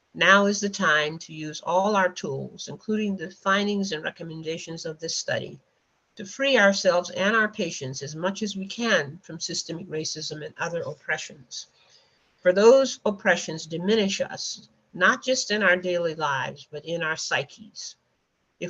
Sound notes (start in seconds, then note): none